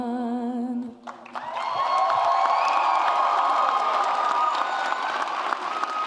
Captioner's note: audience applauds and cheers